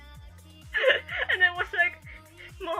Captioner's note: laugh